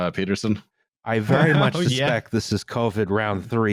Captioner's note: laughing